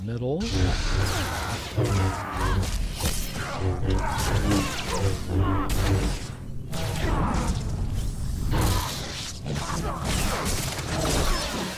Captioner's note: gunfire